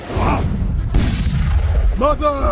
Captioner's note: fire blazes